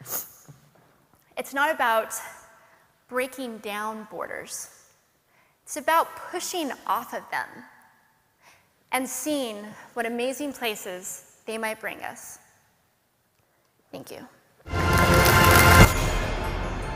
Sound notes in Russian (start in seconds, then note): 14.7 Аплодисменты